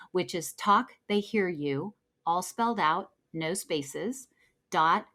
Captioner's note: none